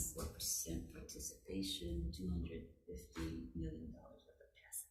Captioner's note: none